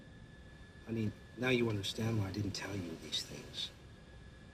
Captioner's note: none